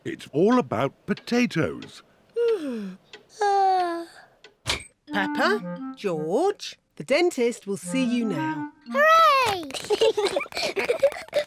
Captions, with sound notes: -It's all about potatoes. -(YAWNS) (YAWNS) Peppa, George, the dentist will see you now. -Hooray! -(BOTH GIGGLE)